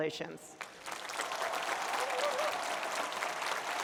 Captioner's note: cheering